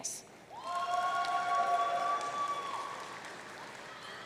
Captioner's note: audience cheering